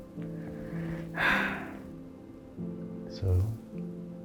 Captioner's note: Flower sighs